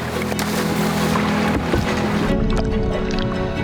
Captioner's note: water splashes